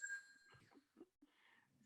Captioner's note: phone ringing